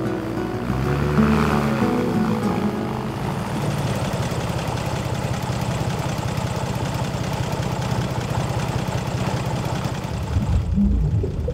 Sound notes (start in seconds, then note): 4.4 airboat noise; 10.3 underwater bubbling and airboat noise